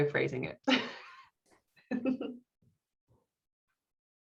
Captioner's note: laughs